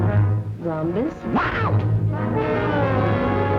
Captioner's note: screams